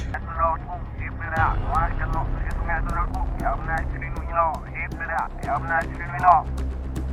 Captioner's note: reverse sound continues